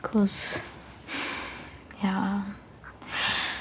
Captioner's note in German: Seufzen